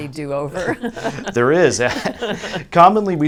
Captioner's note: laughs